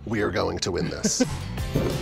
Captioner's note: upbeat music; laughs